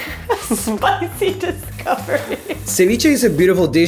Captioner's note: laughs